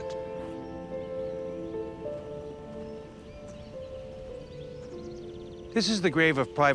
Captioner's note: birds chirping; somber piano music